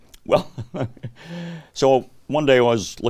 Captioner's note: chuckles